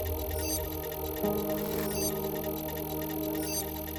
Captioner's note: gentle static, data flowing; soft pulses of digital data